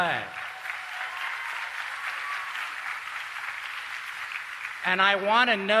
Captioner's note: applause